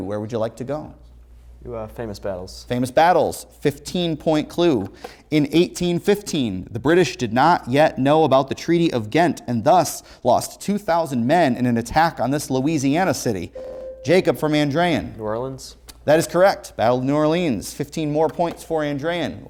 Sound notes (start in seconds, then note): 13.5 ringing